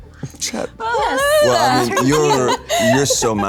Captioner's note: laughs